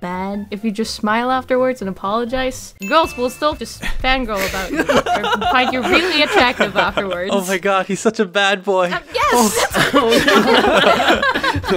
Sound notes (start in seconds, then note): 4.5 laughter; 9.4 all laugh